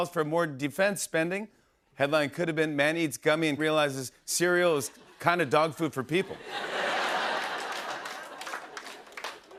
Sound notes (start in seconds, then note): 6.2 laughter